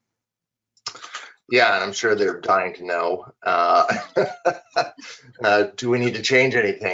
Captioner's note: laughing